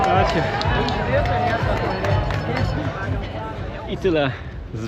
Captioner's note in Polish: Aplauz